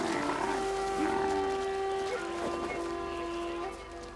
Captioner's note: grunts